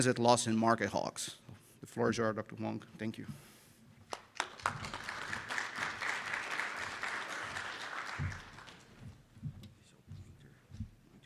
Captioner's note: round of applause from audience